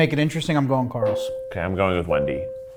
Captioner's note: bell ringing